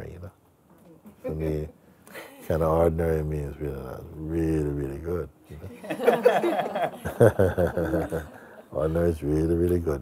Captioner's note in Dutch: gelach